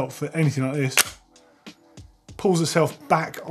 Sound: magnet clicks

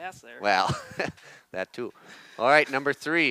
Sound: laughs

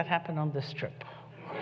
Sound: laughter

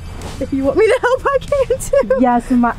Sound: laughs

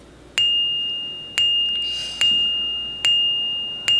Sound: bells dinging

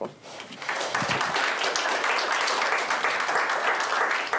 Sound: applause

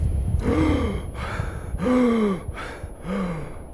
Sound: heavy panting

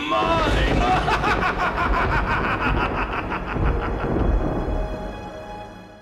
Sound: evil laughter

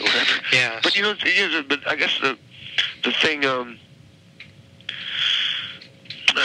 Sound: sighs

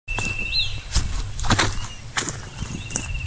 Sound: footsteps

